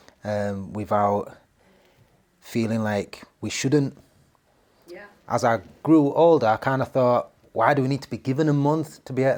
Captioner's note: 'Yeah' in background